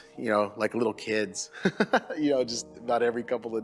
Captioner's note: laughing